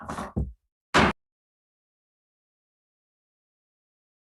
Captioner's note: gavel bangs